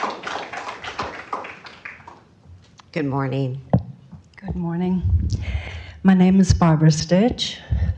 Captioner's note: applause